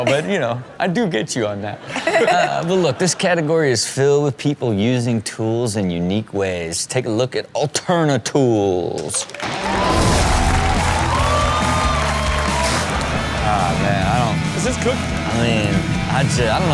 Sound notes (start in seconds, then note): 1.8 Chanel laughs; 9.2 crowd cheers